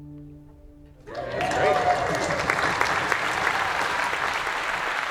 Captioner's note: applause